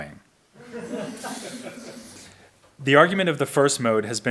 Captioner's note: audience laughs